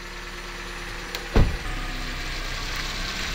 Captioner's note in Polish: odgłosy samochodu